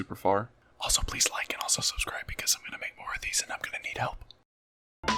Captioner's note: whispers up on the mic